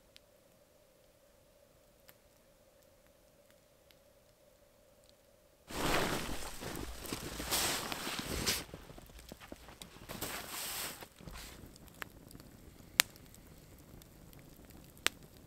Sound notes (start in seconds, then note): 5.6 tarp rustling